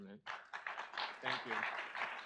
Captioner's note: audience applauds